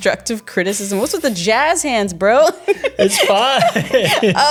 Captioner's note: laughing